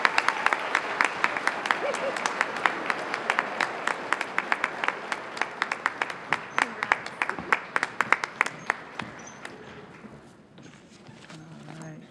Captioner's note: applause